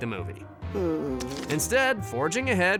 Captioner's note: groans